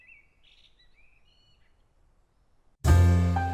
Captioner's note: birds chirping